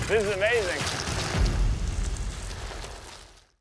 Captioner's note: tires crunching